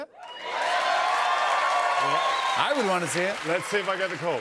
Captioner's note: cheers and applause